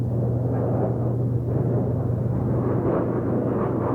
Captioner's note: jet engine roaring